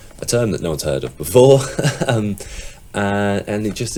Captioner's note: chuckling